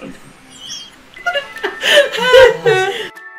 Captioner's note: both laughing; upbeat music